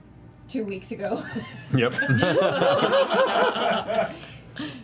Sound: laughter

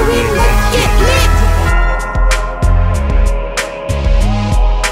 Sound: spooky evil laugh

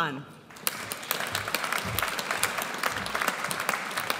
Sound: audience applauds

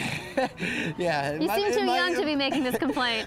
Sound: laughter

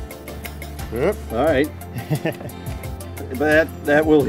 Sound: laughs

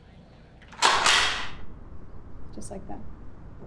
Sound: gun cocking

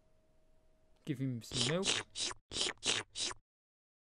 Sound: jess drinking sound

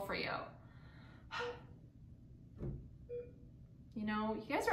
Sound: beeping

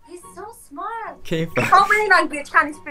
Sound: Arabic

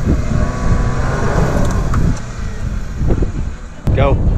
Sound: jeep spinning in sand

